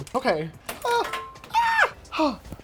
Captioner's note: tools clanging